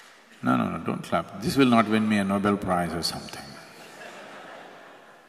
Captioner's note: laughter; 笑聲